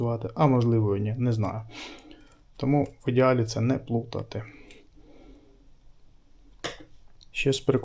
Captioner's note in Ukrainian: сопіння